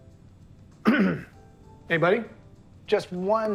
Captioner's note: clears throat